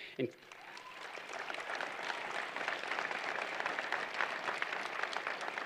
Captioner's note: applause